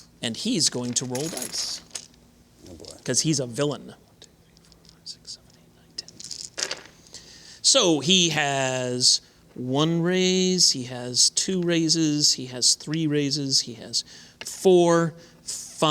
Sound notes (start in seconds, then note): 6.0 dice clinking